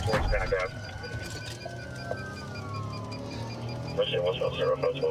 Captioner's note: sirens wailing